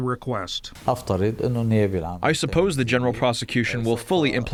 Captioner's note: through translator